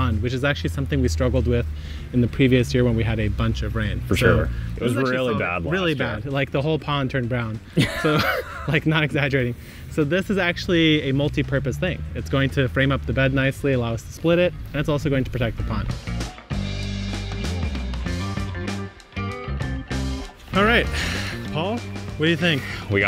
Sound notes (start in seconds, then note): 7.7 both laughing; 16.6 energetic music